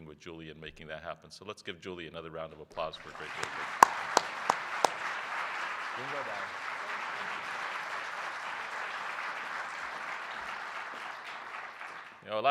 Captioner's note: applause